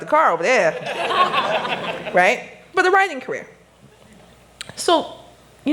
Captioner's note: laughter